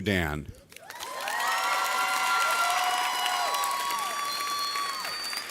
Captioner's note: audience cheers